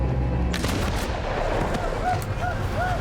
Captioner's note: gunshot